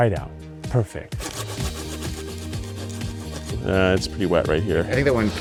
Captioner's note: knife sawing; upbeat electronic music